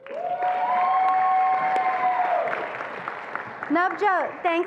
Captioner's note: attendees applauding and cheering